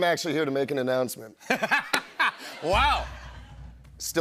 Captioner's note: laughter